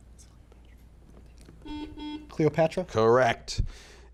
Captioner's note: buzzer beeping